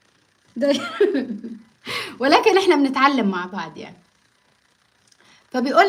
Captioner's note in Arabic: ضحك